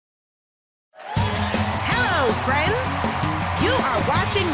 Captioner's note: cheering and applause